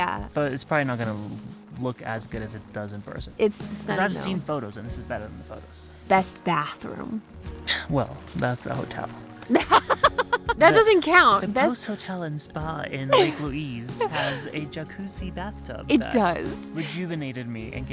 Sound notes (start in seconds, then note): 9.5 laughs